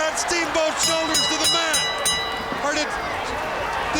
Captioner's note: bell ringing